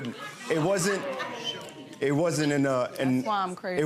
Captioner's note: audience laughs